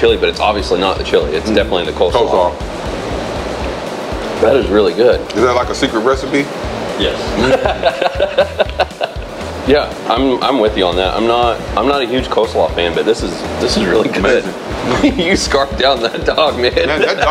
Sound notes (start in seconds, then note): 7.3 laughs; 16.8 laughs